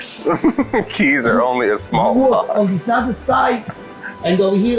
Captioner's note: chuckles